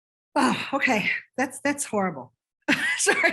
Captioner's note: sighs; chuckles